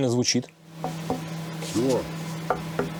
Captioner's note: knocks; knoks more